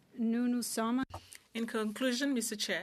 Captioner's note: speaking French